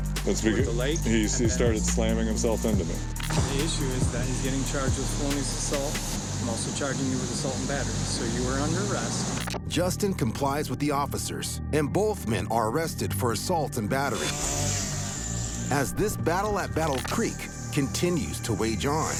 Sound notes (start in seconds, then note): 14.2 weed wacker whirring